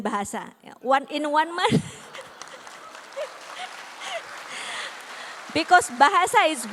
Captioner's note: applause